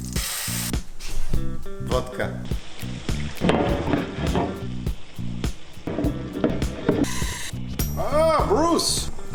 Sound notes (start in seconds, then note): 0.2 food sizzling; 3.4 pan scraping; 7.0 object hissing